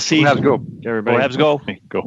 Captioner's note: speaking FRENCH